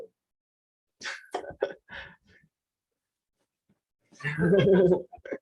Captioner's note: laughs